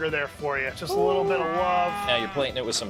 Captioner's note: cow mooing